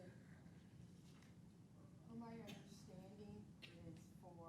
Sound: woman speaking softly

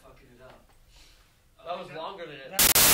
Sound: sniff; Static

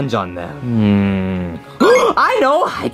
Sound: gasps

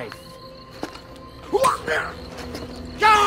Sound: sound of pain

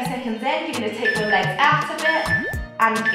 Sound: timer beeping

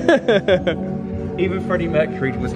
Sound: laughs

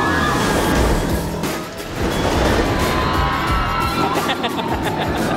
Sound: riders screaming; rollercoaster zooming; dad laughing

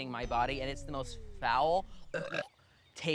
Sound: belching

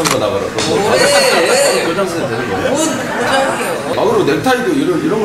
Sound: laughter

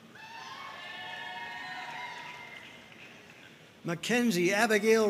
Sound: audience cheering and applauding

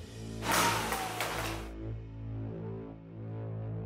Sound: loud clanking

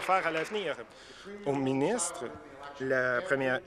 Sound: applause

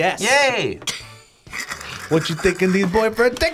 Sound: laughs

